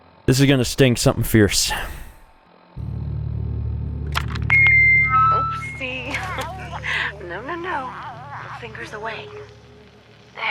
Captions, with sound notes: This is gonna sting, something fierce. *FEEDBACK SOUND*